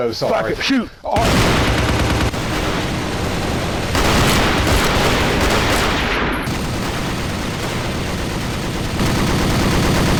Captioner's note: massive amount of gunfire